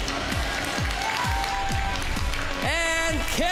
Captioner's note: applause